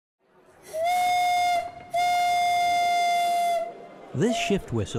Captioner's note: work whistle blowing